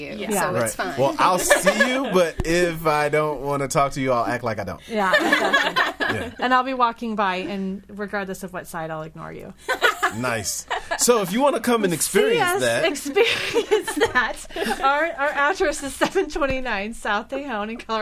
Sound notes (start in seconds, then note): 4.9 all laughing; 9.6 laughter